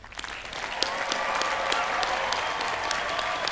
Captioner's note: cheering